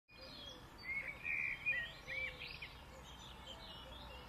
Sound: bird chirping

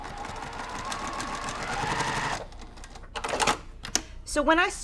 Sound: sewing machine resounding

